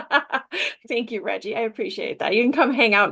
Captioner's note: laughter